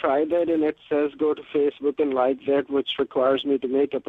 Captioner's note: voice is muffled